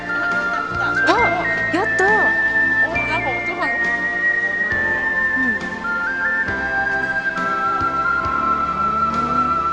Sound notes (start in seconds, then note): 1.1 converses in Japanese